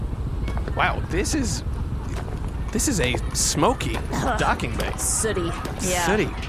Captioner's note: coughs